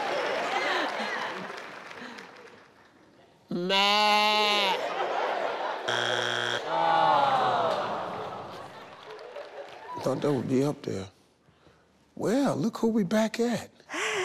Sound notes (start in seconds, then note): 5.8 buzzer buzzing